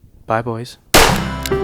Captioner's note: gunshot